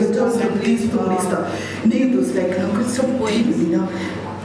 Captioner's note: non-english speech